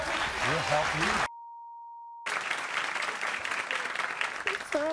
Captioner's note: applauding